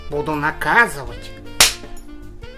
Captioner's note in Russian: щёлк ремня